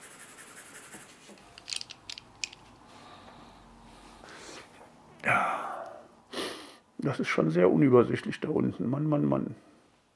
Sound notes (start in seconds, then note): 5.2 sighs